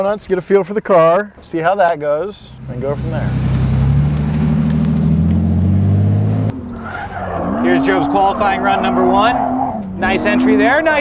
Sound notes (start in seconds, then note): 2.4 engine revs; 7.0 tires screech